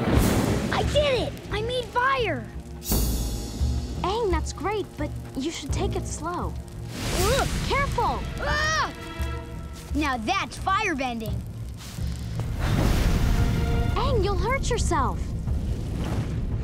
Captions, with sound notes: I did it! I made fire! Aang, that's great, but you should take it slow. - Ooh! - Careful! [screaming] Now that's firebending. Aang, you'll hurt yourself!